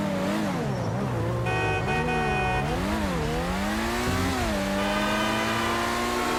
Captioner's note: vehicle horns sound